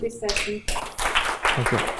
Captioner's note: applause